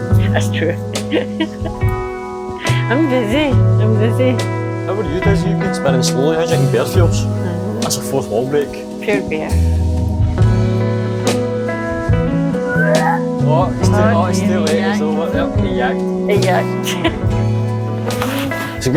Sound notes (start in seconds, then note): 12.4 puking Sound; 16.8 laughter